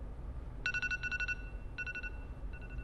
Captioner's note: alarm Ringing